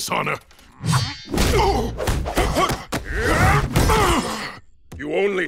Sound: grunting

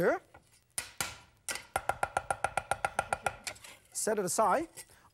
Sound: chopping

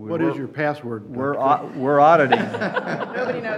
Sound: laughter

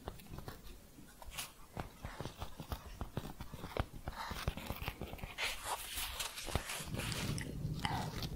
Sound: tapping and shuffling

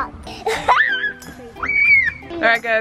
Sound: child laughing

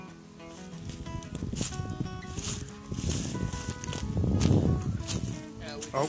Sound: leaves crunching

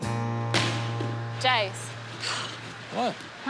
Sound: scoffs

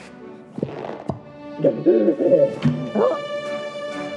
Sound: breathing heavily

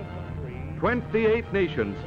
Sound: voiceover

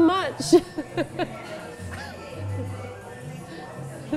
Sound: laughs

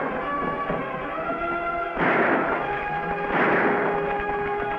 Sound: dramatic music; guns firing

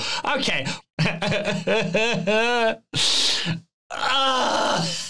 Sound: makes crying sounds

